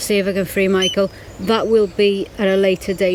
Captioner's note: beep